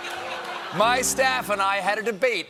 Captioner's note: laughter; piano riff